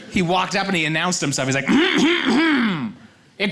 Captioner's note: clears throat loudly